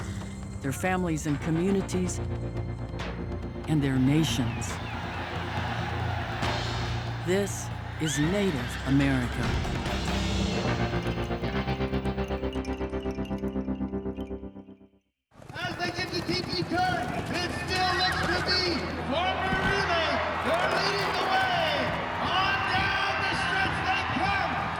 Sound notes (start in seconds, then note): 4.4 spectators cheering